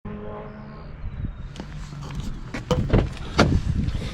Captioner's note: racing cars zooming